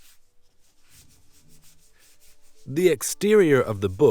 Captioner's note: hands rubbing